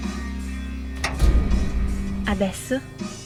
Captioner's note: sound of rattling outside of the car